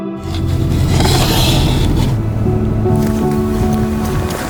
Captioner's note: door sliding